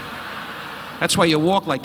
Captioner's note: audience laughing